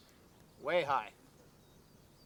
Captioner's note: voiceover